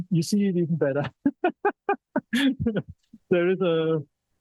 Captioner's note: laughter